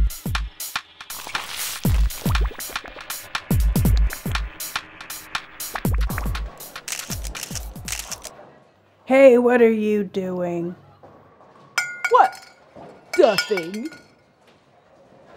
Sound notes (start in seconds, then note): 1.0 oil glops; 6.7 camera clicks; 11.8 oil can clanks